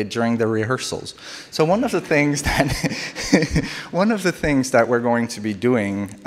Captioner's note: laughs